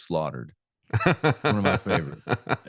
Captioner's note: laughs